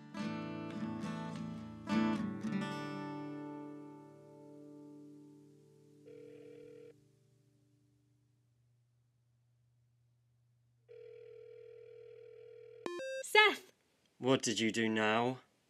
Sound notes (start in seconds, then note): 10.8 phone ringing; 12.8 call accept sound effect